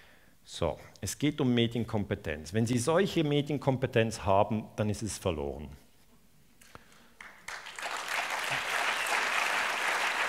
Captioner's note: applause